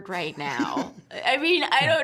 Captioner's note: both chuckling